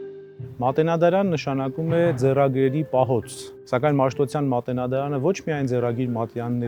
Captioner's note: speaking in a foreign language